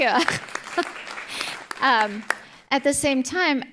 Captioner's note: group applauding